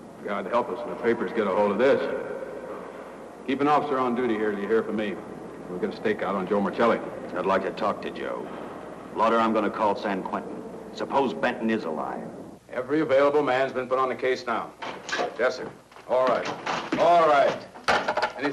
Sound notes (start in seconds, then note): 16.2 door bangs open; 17.7 phone slams down